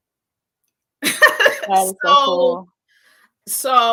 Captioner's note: laughs